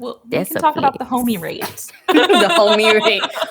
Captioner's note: laughs